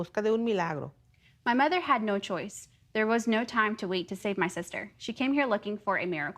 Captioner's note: speaking in native tongue